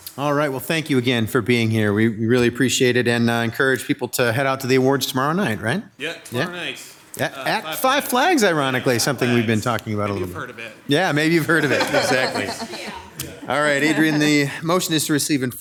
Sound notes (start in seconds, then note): 11.1 laughs; 12.9 overlapping chattering